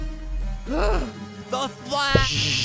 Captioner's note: gasp